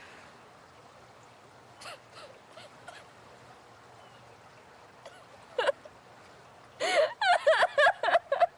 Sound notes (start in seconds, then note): 2.3 Abby cries; 2.3 water burbles